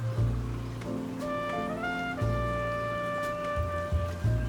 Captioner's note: distant sirens ring